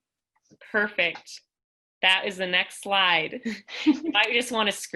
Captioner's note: laughter